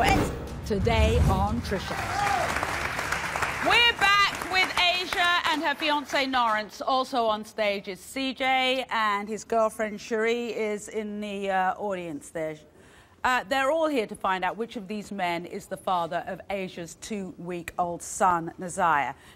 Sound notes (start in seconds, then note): 1.7 applause